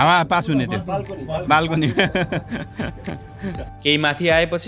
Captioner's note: laughter